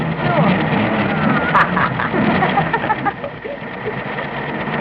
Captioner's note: engines revving; laughing